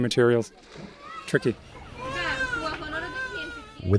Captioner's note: baby crying